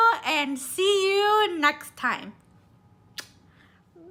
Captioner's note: kiss sound